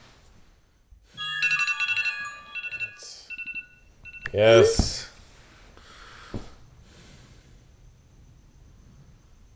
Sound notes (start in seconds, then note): 1.1 phone jingle